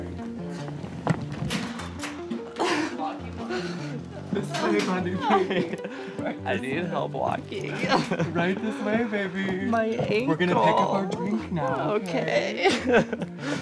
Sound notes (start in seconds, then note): 2.4 chuckling